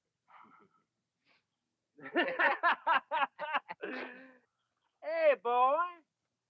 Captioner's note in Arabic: رجال الشرطة يضحكون; يضحك